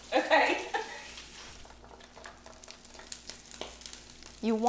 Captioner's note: laughs